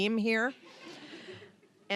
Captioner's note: audience chuckling